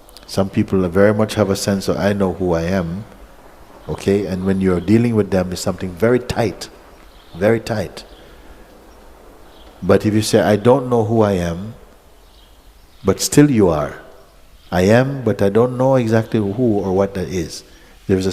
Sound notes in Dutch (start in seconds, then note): none